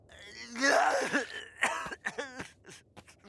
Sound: man crying

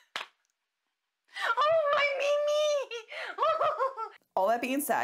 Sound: quietly laughing

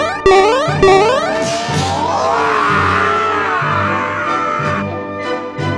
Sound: yelling

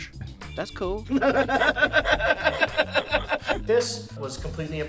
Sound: laughing

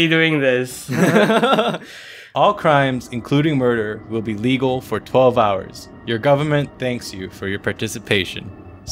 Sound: laughter

